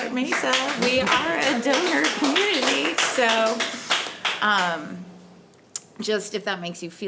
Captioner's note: audience applauding